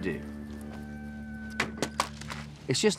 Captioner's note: thud